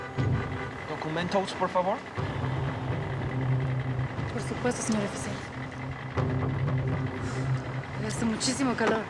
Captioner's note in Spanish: sonido del claxon